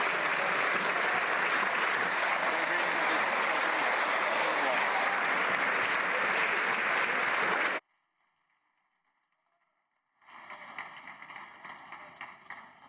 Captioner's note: applause